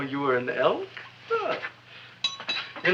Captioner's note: tooth clinks